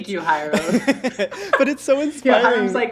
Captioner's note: laughing